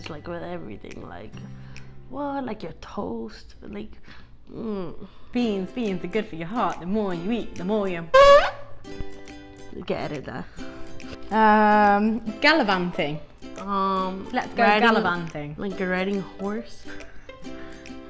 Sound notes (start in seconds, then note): 8.2 fart noise